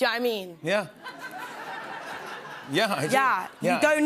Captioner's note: laughter